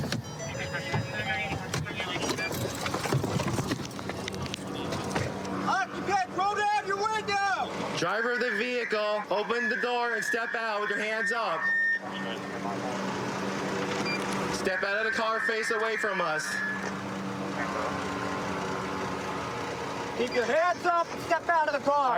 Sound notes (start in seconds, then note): 0.0 car door chiming; 7.9 using loudspeaker